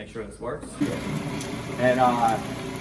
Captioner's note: blender whirring